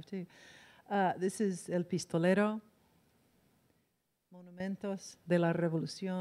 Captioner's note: in foreign language